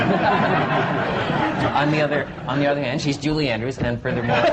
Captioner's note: laughter; laughter